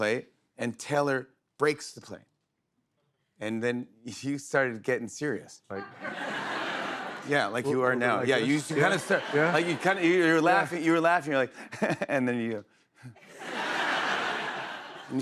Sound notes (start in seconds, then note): 5.8 laughter; 11.5 chuckles; 13.2 laughter